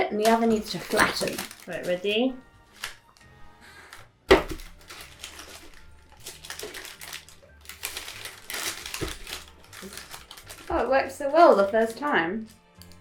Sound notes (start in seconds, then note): 4.3 paper rustling